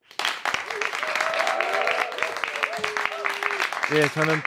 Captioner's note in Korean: 박수와 환호